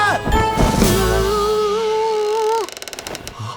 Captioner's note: whimpering; floorboards creaking